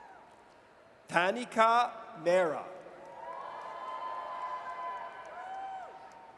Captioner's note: audience cheers